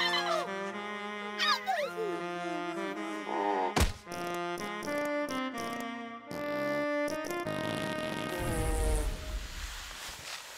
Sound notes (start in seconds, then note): 1.4 yawning; 3.8 farting continues